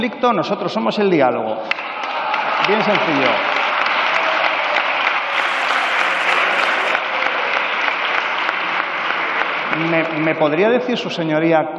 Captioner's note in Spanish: Aplausos.-Protestas